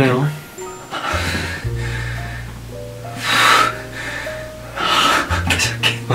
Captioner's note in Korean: 거친 숨소리